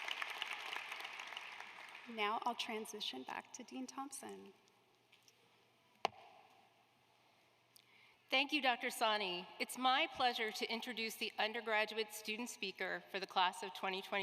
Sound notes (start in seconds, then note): 1.8 applause